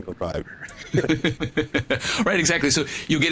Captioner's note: both laughing